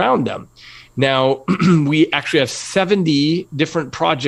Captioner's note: cough